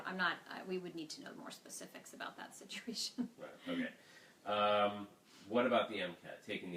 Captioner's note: laughing